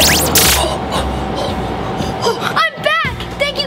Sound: gasps

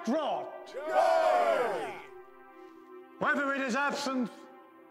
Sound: cheering; crowd

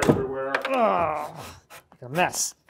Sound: groans

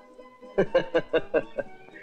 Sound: laughing

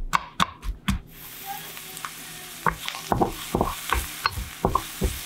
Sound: sizzling

